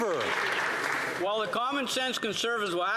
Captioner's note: some Applause